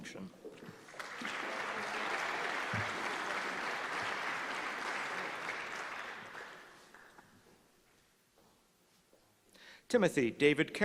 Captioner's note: applause